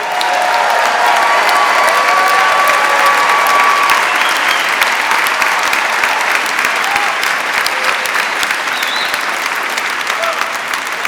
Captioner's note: applause